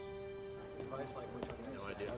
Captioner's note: mixed chatter